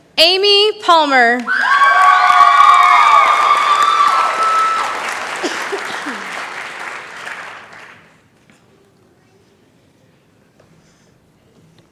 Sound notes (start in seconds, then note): 1.4 cheering